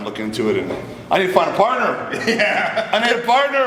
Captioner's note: rage laughing